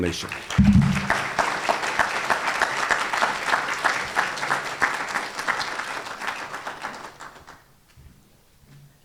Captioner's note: applause